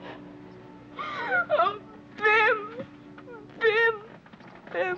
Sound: gasps

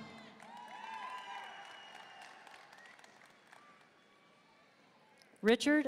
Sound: audience cheering and applauding

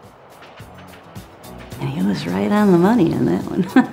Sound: laughs

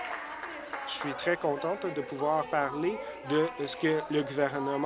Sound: applause

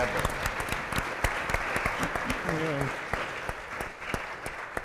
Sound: applause

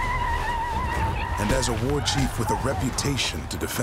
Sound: war cries, fighting

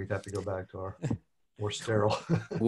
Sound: laughs

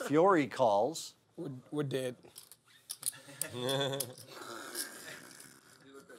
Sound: laugh

